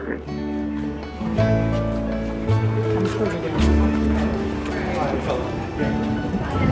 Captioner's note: gentle music; people chatting